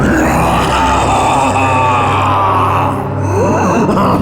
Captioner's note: booming maniacal laugh